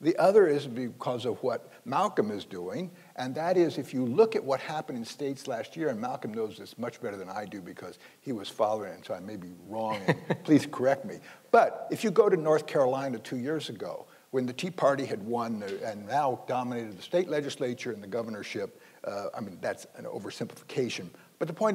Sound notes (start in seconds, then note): 9.8 laughing